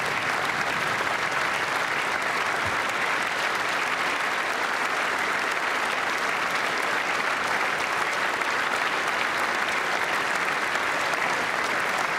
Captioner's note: applause